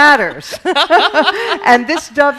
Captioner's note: laughing